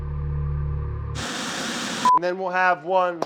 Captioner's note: dark ominous music; static hisses